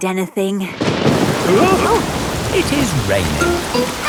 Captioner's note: thunderclap; parents gasp